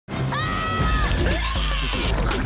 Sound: screaming

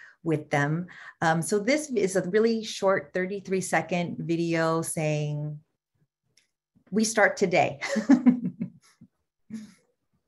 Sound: laughter

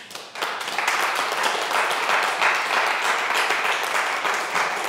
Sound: audience clapping

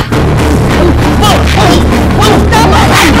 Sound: grunting

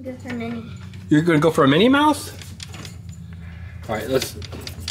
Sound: claw rattles

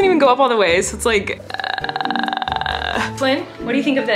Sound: throat sounds

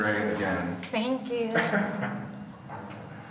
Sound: laughs

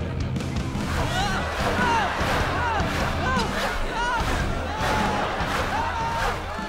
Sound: screaming

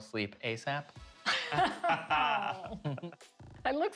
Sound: laughter

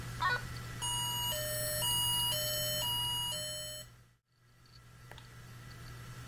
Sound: alarm Sounds

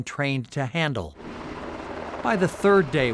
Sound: helicopter hovering

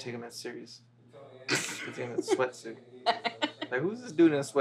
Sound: Mickey laughs

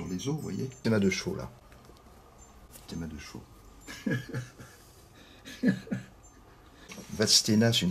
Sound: laughs

